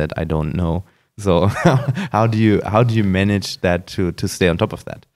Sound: laughs

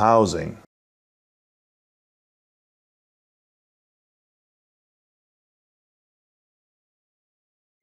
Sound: silence

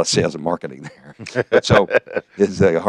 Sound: laughs

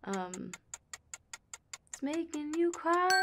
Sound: clock ticking

